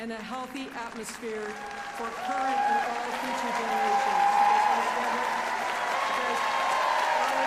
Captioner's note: applause